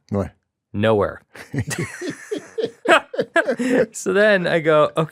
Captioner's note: both laugh